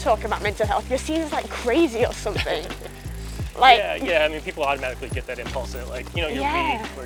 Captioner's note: laughs